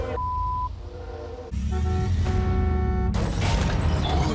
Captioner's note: horn honks, glass shatters